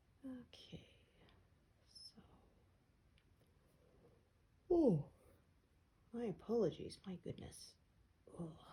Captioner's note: yawns